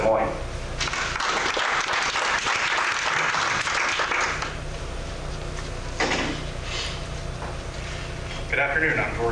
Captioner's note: clapping